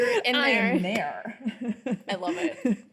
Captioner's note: laughing